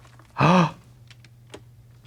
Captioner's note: Trixie gasps